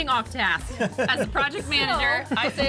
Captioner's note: laughs